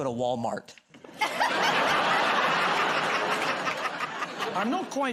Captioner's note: laughter